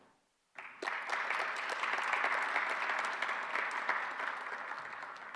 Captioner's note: audience applauding